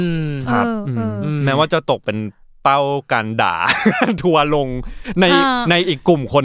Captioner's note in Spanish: Risas